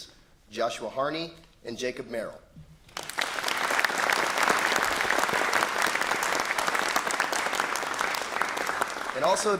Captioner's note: applause